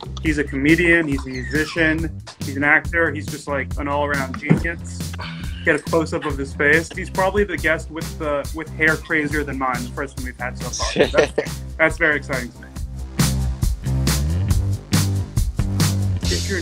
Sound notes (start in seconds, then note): 10.6 Reggie laughs; 13.2 upbeat rock music